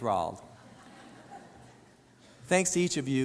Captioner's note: audience laughs